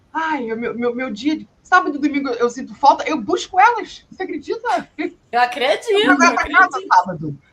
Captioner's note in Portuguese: risadas